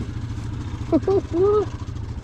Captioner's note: laughs